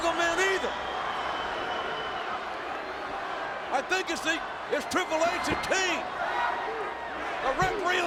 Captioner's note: applause